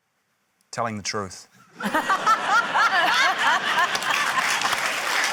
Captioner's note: laughter, applause